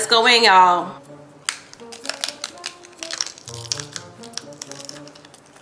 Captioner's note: taco crunches; muffled whimsical music